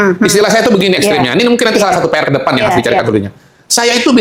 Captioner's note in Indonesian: tertawa